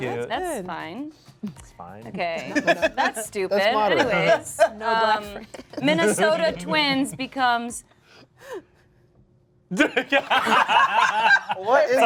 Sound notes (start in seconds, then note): 2.5 laughs; 5.6 laughs; 9.5 gasps; 9.8 cast laughs